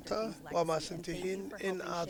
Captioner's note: chuckles